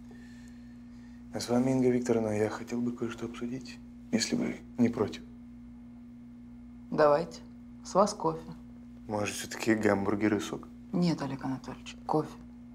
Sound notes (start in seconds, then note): none